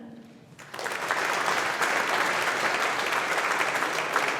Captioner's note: audience applauding